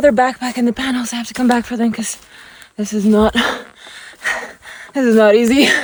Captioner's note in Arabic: يلهث